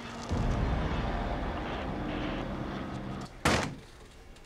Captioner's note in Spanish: y se escucha un disparo